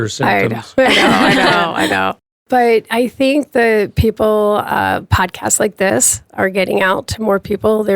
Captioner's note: laughs